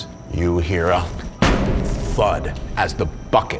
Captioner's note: bucket thudding